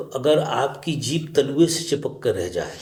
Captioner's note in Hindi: none